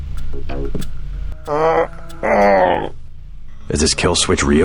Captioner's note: groans